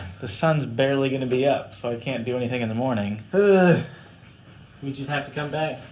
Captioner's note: groans